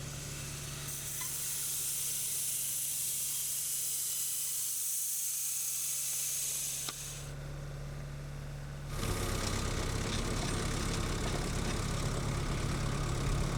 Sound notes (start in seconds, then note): 0.9 electric saw screeching; 8.9 engine revving